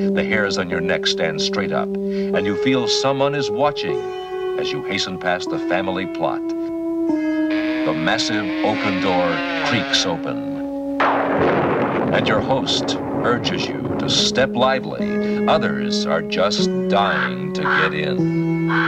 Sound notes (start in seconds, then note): 10.9 lightning crackling; 11.7 door creaking